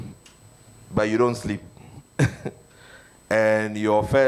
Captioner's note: chuckles